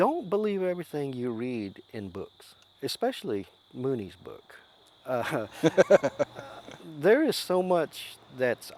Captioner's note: laughs